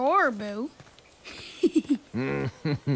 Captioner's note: chuckles; giggles